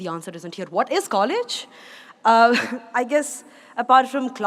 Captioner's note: laughs